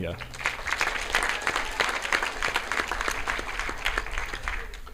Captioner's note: audience clapping